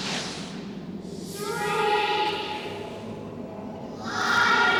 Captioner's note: kids' voices